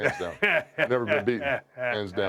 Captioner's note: laugh